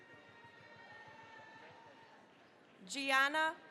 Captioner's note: cheering, applause